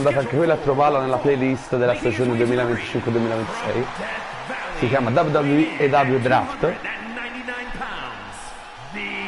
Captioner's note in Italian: Applauso